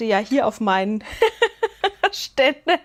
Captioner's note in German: Gelächter